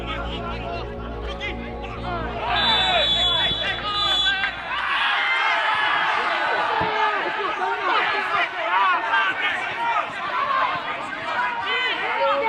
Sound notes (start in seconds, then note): 0.0 referee's whistle; 2.2 whistle blowing; 5.5 people roaring